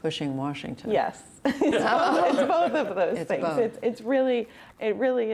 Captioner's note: laughter